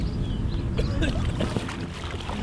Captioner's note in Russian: сильно кашляет